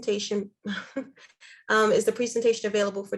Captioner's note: chuckles